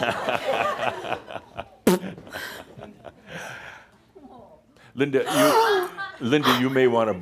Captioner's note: does something suggestive with the microphone